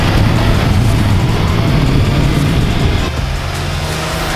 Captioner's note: engine roars